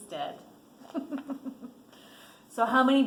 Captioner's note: laughs